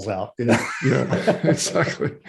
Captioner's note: both laugh